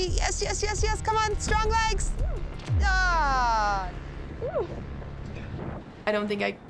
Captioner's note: yelling loudly